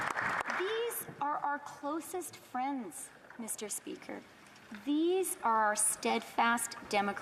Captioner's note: applause